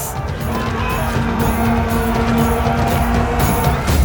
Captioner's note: soldiers screaming war cries